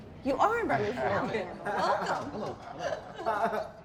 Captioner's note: group laughs